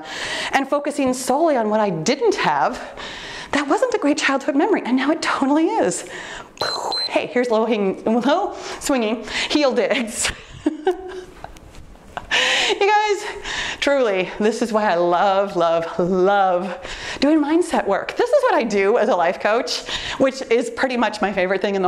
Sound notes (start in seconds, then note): 6.6 timer beeps; 10.2 chuckles